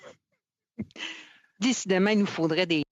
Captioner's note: speaking in French